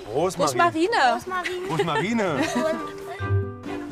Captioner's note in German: lacht